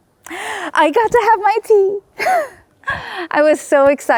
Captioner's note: gasps; chuckles